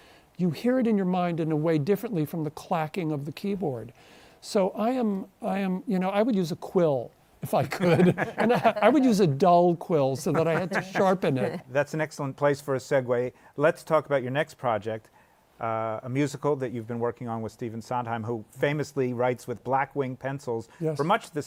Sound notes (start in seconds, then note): 7.6 all chuckle